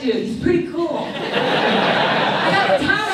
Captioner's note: audience laughs